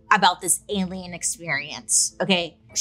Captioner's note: none